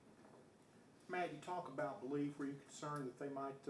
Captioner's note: voiceover